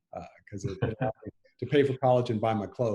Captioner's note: laughing